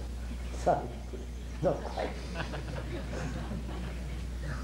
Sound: laughs

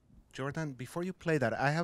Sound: voiceover

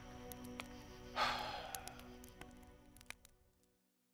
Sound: sighs

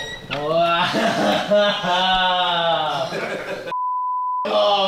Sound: laughing

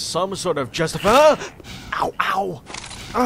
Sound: headcrab screeches

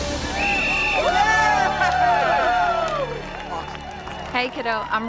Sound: boys cheer

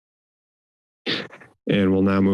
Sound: inhales

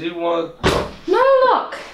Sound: the door opens

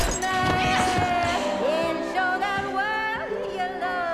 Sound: patrons gasp

